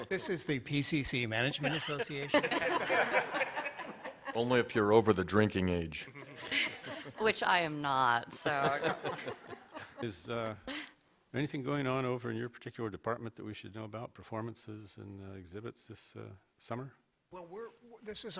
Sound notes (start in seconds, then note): 3.4 laughter